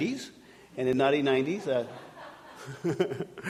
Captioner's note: audience laughing